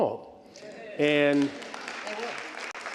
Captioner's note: applause